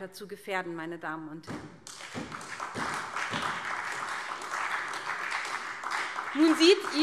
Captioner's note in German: Beifall SPD